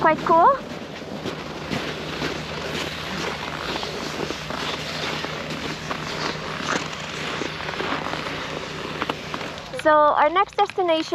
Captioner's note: snow crunching